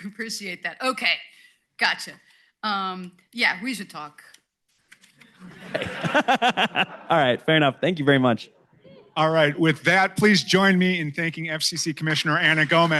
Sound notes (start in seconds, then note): 5.4 laughter